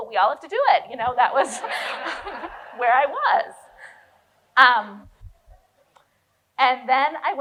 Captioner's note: audience laughs